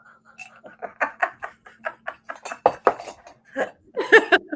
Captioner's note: both laughs